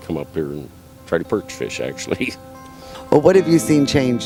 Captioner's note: chuckles